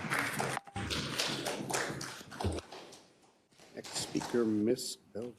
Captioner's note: attendees applauding